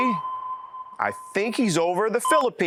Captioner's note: ding